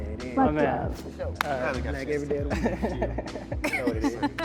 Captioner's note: murmurs drown voice